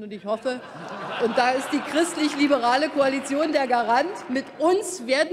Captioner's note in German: Heiterkeit und Beifall bei Abgeordneten der CDU/CSU und der FDP